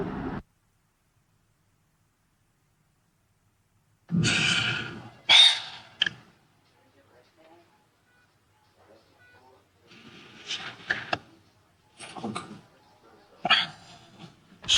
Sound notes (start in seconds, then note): 3.9 deep breath; 6.5 background hospital noise